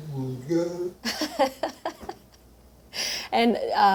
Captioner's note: laughs